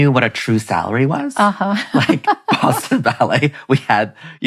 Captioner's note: laughing